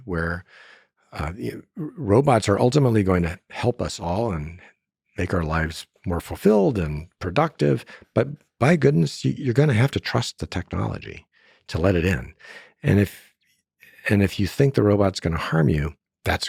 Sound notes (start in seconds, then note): none